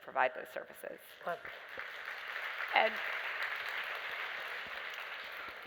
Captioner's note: applause